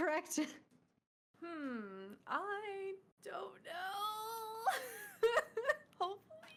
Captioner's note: laughing